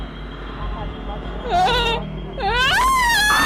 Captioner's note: terror-filled, blood-curdling scream